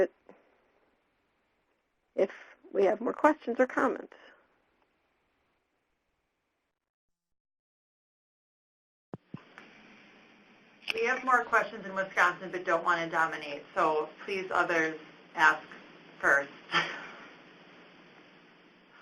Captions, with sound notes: if we have more questions or comments? >> We have more questions in Wisconsin, but don't want to dominate, so please, others, ask first [laughs].